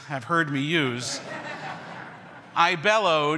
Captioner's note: everyone laughs